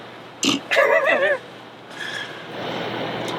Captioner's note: laughs